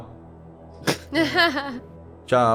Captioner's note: laughs